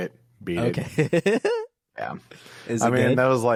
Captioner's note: laughs